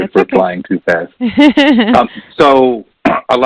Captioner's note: laughing